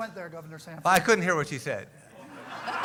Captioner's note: laughter